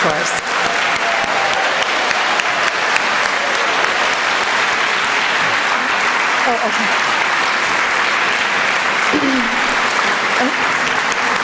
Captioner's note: applause